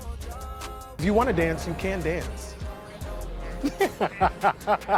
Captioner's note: laughs